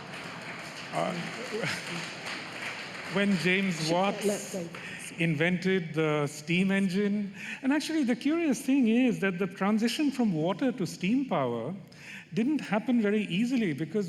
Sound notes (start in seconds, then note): 1.5 laughter; 4.1 applause